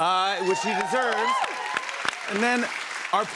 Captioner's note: cheers and applause